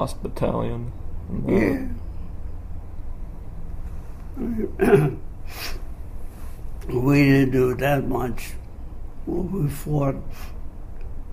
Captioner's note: clears throat